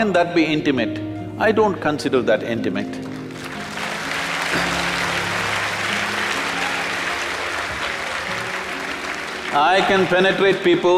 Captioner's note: applause